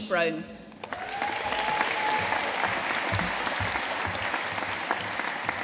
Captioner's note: audience cheering and applauding